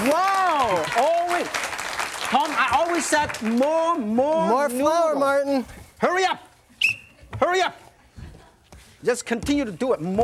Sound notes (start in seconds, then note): 6.8 blows whistle